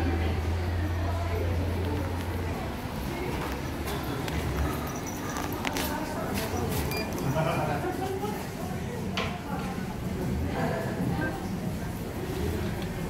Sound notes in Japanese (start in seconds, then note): 6.9 商品選択音